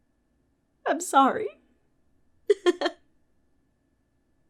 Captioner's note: laughs